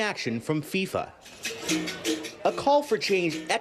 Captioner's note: speaking non-english